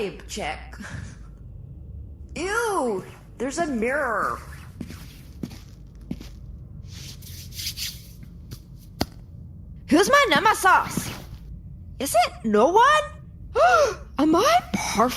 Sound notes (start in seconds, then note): 9.3 gasps